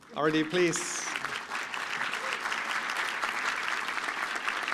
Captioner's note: applause